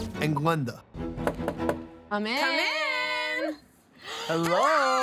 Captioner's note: knocking; cheering